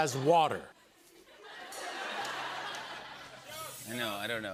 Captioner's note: laughter